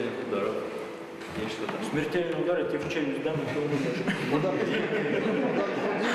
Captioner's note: laughing